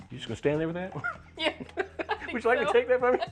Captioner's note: laughs